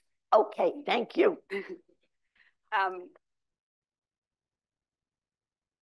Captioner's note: chuckles